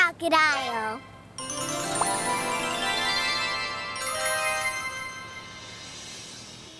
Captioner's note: transformation sound